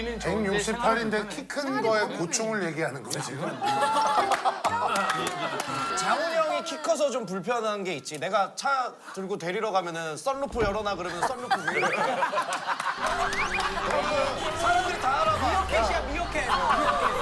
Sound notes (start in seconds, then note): 3.4 the 207cm tall guy can only laugh